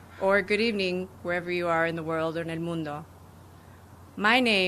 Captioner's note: speaking spanish